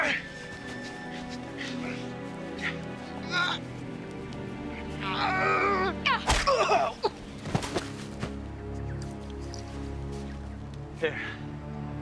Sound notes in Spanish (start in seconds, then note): 1.8 música sombría; 5.0 Voss gimiendo